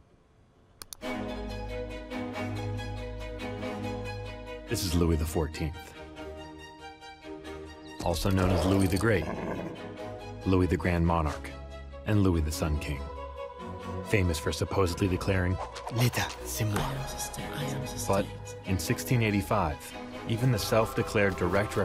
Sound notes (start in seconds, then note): 15.9 speaking french